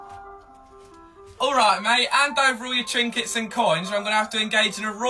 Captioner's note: british accent